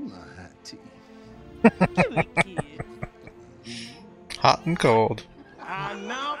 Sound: laughing

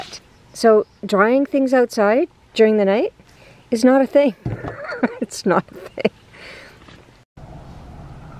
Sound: laughing

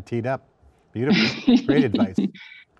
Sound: laughing

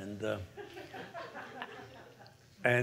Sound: laughter

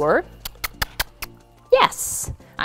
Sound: kissing sounds

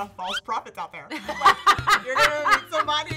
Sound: laughter

